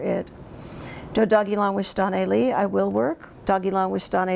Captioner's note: speaks in Cherokee